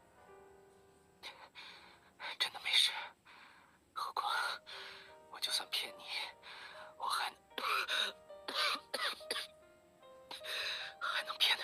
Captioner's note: cough